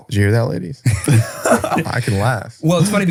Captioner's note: all laughing